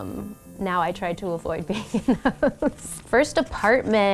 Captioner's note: laughs